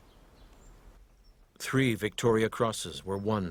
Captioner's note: voiceover